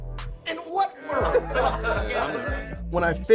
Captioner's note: laughing